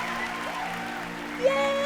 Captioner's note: cheers and applause